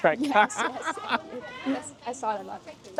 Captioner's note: laughing